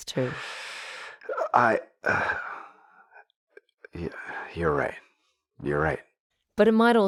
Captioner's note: breathes in